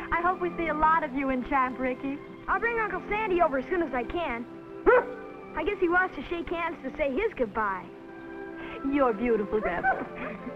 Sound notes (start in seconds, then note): 4.8 dog barks